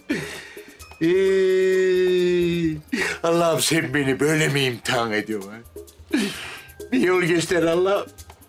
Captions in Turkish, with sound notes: (Ağlama sesi) Allah'ım, sen beni böyle mi imtihan ediyorsun, ha? Bir yol göster Allah'ım.